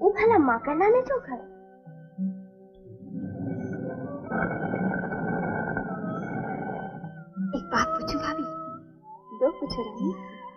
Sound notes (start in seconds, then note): 2.9 grinding